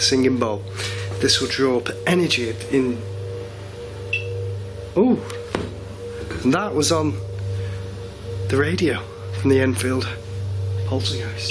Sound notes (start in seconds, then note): 4.0 beeping